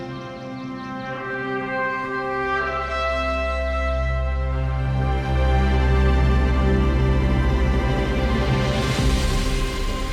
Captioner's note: birds chirping